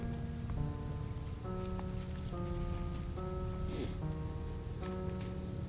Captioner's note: leaves crunching; quiet breathing